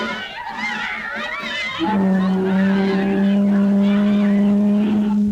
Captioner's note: crowd cheering; boat horn blowing